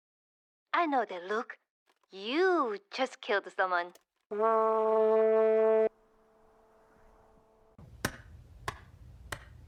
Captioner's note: blows Horn